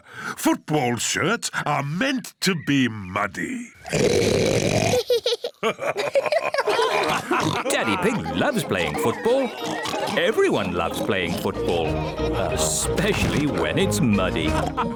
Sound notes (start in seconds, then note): 3.5 oinks loudly; 4.8 both laugh; 14.0 all laughing